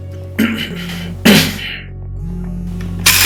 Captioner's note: clears throat